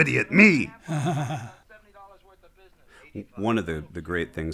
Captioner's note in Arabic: يضحك